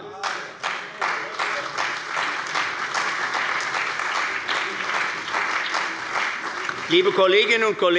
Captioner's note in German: Beifall bei der CDU und dem BÜNDNIS 90/DIE GRÜNEN